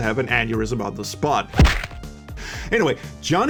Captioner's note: thwack